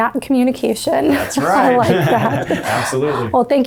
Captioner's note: laughs